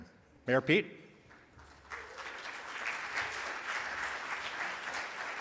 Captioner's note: audience applauds